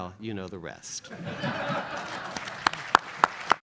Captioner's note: audience laughs; audience applauds